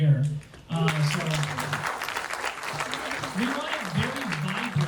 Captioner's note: audience claps